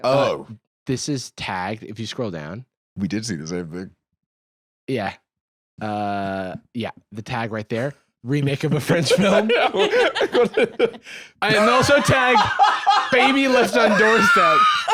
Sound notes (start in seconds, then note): 8.8 laugh